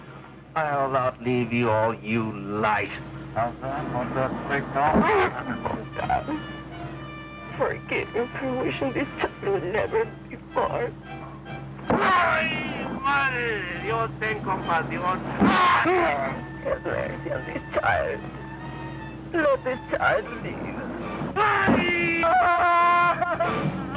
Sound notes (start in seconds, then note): 5.1 Ramon grunts; 11.7 Ramon speaks Spanish; 15.2 Ramon grunts; 21.0 Ramon grunts; 22.2 Esperanza wails in pain